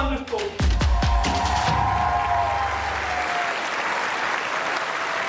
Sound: audience cheering and clapping

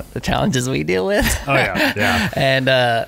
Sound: laughing

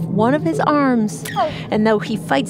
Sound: the octopus gives a tiny, high-pitched “Ow!”

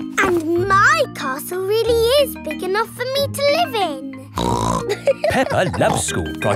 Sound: snorts and laughs

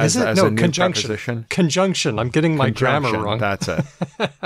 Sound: laughs

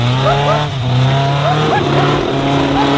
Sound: laughing

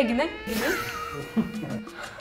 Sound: laughter

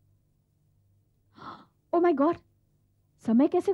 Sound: gasps

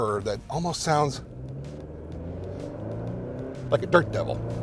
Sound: engine whirring

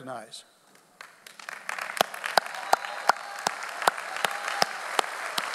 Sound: audience applauds

